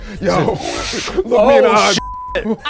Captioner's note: inhales